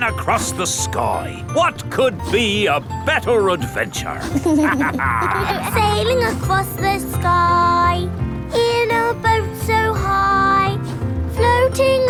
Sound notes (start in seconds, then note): 4.2 captain dog and kids laughing